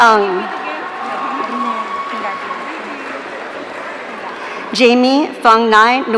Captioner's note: audience cheering